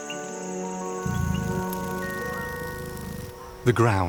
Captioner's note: gentle music; insects buzz